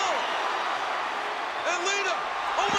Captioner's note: audience cheering